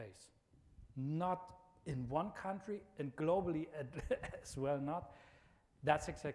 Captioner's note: laughs